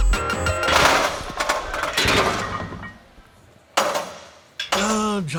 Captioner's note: barbells crashing